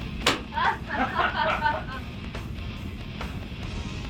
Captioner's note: laughing